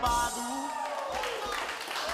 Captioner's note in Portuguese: todos aplaudindo